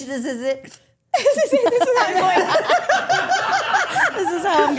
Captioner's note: group laughing